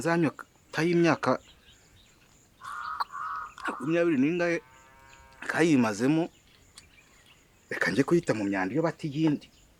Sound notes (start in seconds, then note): 2.6 Cri d'un corbeau